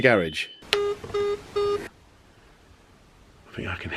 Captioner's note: phone beeping